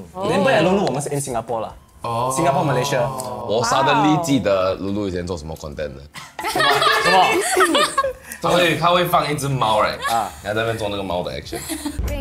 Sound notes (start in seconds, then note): 6.4 laughs